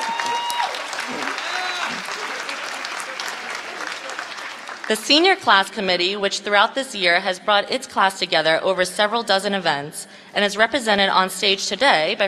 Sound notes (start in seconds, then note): 0.0 applause